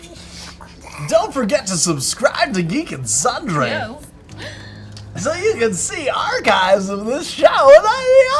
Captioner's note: radio DJ voice